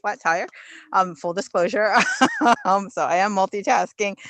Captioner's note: laughs